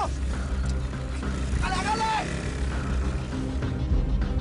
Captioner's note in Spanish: Ruido al irse